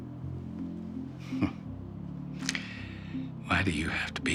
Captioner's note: Nash chuckling